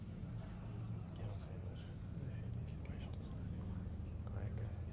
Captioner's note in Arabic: ثرثرة